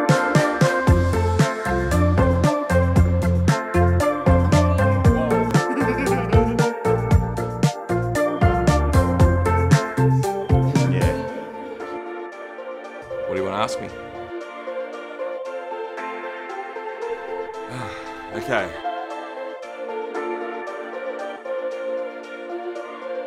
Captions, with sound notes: (upbeat music) (man laughs) (upbeat music) - What do you wanna ask me? Okay. (soft music playing)